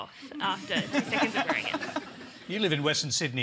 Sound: laughter

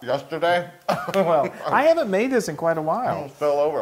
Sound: laugh

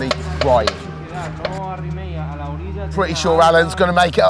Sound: mechanic speaking Spanish

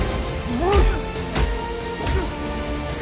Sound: both grunting

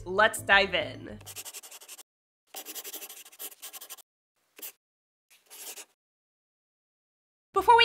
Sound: the sound of a pen scratching. LOGO

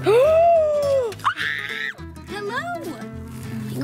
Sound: screaming

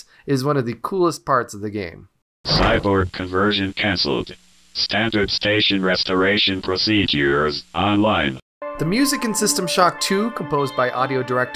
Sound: synthesized voice clip

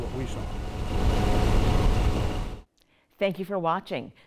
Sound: boat motor humming

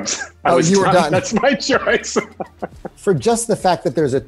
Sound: laughs

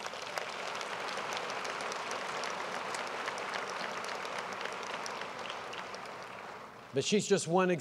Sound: applause

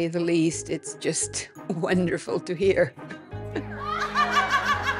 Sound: laughing bursting and rising above the rest; laughs

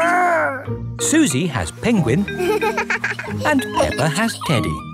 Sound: giggles

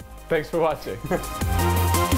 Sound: upbeat electronic music; chuckling

